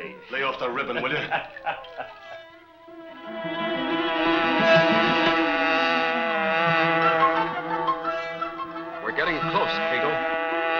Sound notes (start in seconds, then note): 0.4 laughing